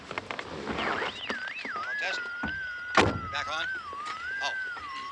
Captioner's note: radio: frequency squealing